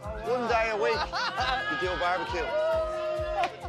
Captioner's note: laughs